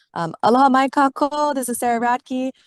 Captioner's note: speaks in foreign language